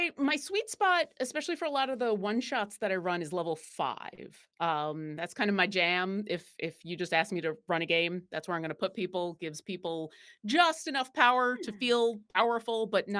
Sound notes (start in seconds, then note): none